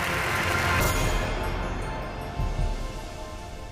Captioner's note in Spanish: Aplausos